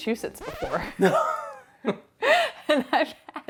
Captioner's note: laughing